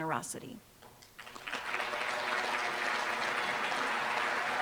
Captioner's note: applause